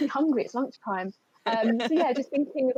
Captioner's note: laughs